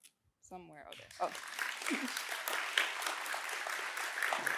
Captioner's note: applause